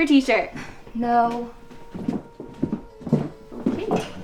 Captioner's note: scoffs